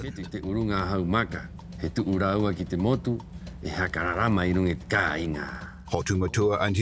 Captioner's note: man speaking Rapanui